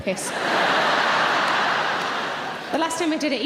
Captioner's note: audience laughing